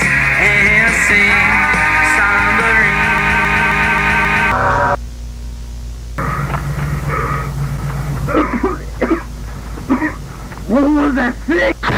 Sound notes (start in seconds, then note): 6.2 heavy Breathing; 8.2 loud Cough